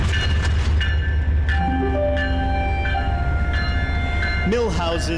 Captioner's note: train bell chimes